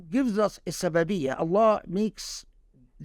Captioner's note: speaking Arabic